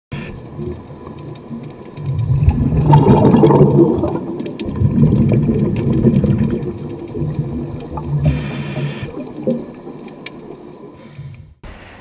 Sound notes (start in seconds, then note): 0.0 water bubbling; 8.0 scuba inhaling noise